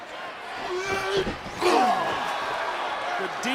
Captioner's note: Drew grunts